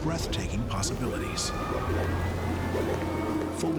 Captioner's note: machines whirring